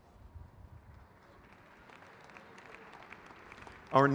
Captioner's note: crowd cheers